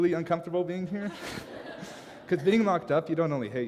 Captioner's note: laugher